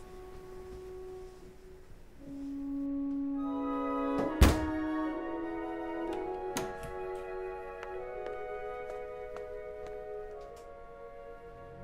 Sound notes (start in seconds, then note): 4.2 door shuts; 6.0 door opens